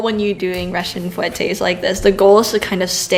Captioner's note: russian